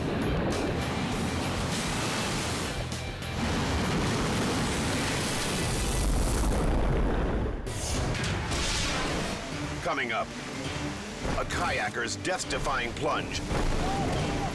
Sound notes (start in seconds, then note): 0.0 waves crashing; 0.2 upbeat music; 7.3 air whooshes